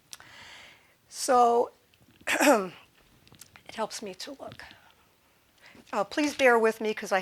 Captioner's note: clearing throat